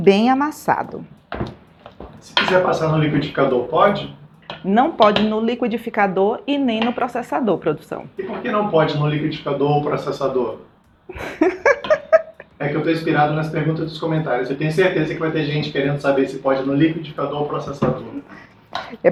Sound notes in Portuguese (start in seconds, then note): 11.1 risadas